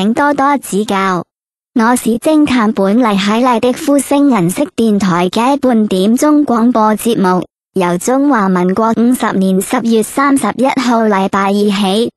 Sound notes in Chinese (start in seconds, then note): 6.5 ภาษา กวางตุ้ง